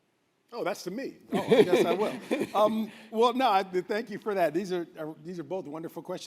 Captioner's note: laughter